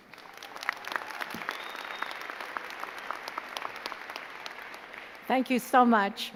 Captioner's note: crowd cheering and clapping